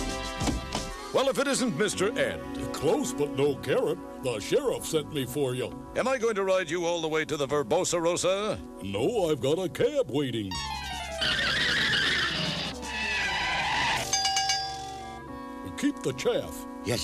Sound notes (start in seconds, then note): 14.0 bell clangs